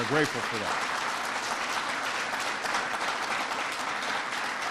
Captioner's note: applause